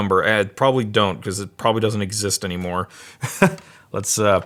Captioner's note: laughs